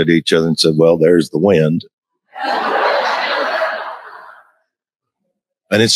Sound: crowd laughs

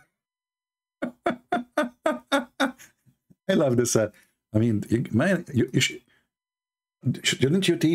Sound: Ketawa

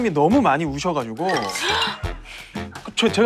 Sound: already laughing

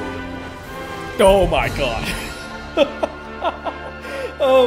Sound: relieved laugh

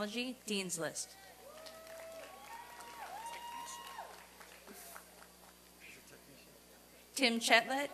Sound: applause and cheering

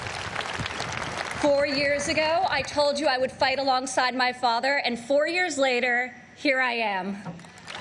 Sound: applause

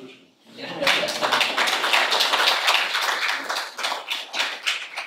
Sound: audience applauding

